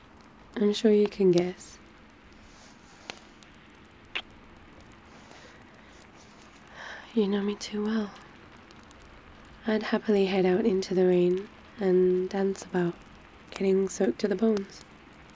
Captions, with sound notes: I'm sure you can guess *kiss* you know me too well I'd happily head out into the rain and dance about... getting soaked to the bones